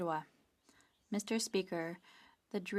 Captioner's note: speaking French